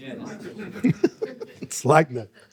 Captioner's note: audience laughing